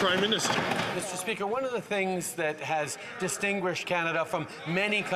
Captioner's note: applause